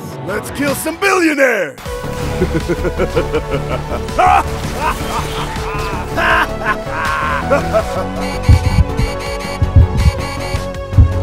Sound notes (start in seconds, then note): 5.1 laughs